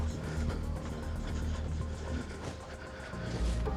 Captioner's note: heavy breathing